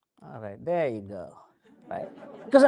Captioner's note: crowd chuckles